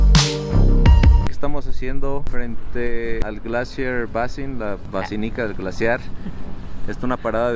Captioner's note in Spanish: risas